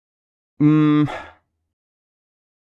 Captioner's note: mmm